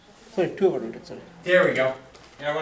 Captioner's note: voiceover